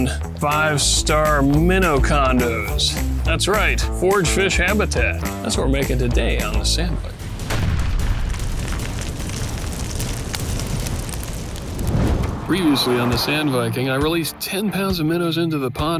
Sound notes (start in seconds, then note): 7.2 heavy hammer thud and rock cracking; 9.4 pounding battle drums; 10.8 whooosh